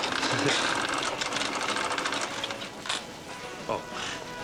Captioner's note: register cranking